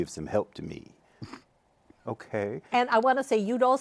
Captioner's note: nervously